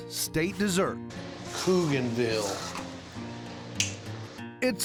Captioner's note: clicks teeth